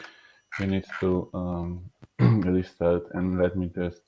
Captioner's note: clearing throat